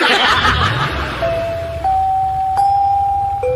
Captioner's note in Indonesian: tertawa